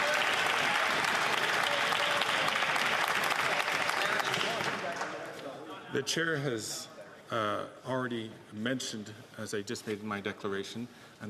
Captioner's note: some Applause